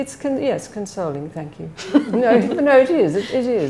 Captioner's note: laughs